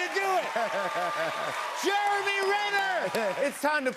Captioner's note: chuckles; laughing